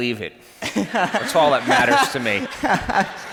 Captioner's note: laughs